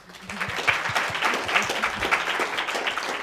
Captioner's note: applause